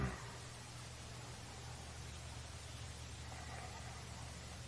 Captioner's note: water falling